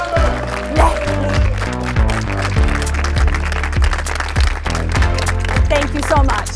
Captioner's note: clapping; light music